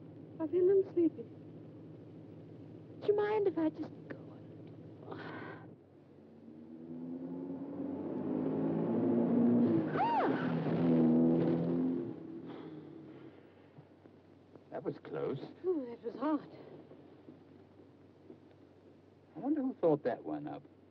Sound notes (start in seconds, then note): 9.9 June shrieks